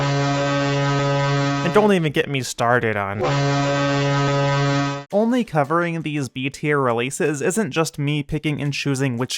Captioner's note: ship horn; ship horn